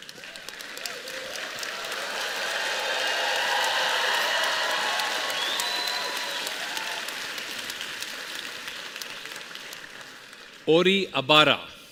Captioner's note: applause